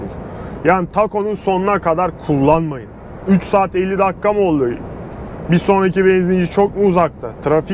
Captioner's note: traffic Acceleration